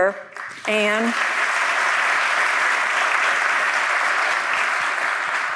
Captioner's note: audience applauding